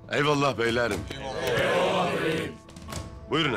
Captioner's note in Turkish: Hep bir ağızdan